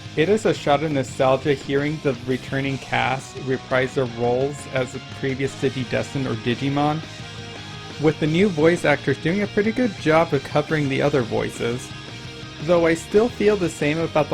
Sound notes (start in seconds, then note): none